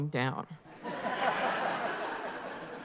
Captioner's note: laughter